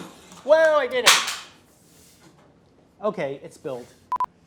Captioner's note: thuds